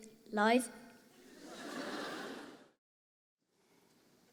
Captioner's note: laughter